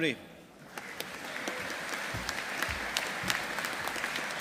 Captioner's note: audience applauding